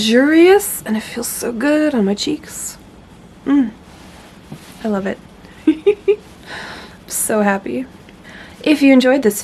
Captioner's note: giggles